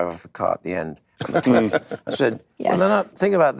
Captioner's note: Judd laughs